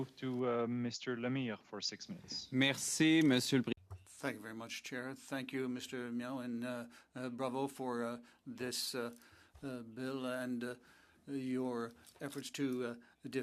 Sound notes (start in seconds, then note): 10.7 speaking French